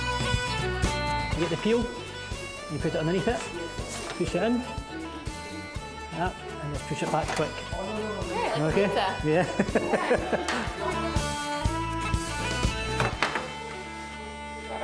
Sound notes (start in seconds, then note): 9.3 laughing; 10.9 lively violin music